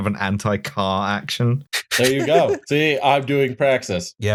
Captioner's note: laughter